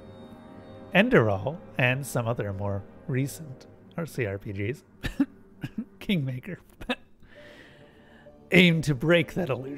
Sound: cough

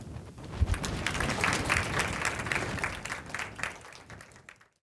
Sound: applause

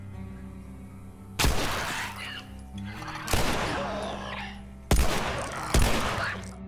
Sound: gunshots and creepy guttural noises

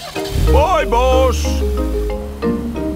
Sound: car engine starts

